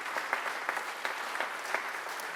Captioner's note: applause